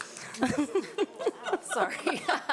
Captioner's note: all laughing